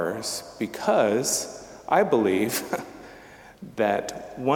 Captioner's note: chuckling